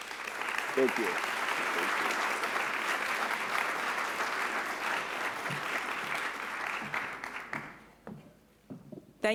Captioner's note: applause